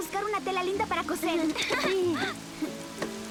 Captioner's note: giggling